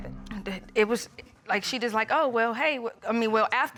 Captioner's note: stammers